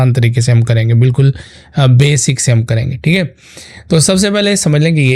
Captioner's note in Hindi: नाक से की जाने वाली आवाज़